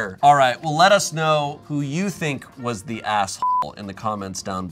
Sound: beep

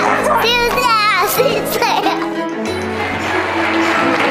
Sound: laughs

